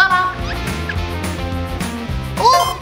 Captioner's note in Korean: 슉슉